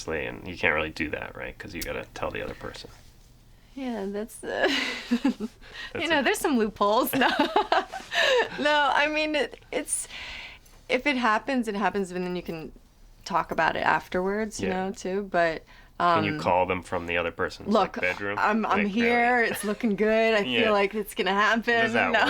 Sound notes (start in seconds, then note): 4.7 laughs; 7.1 both laugh